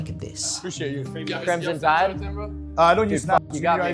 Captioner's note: group chattering